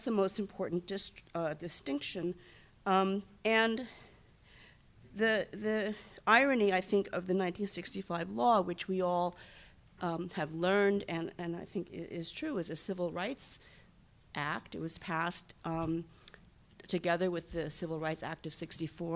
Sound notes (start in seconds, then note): none